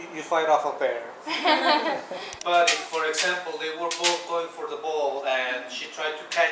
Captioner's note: laughter